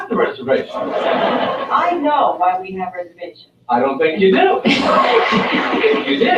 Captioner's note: laugh